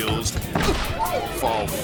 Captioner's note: body thuds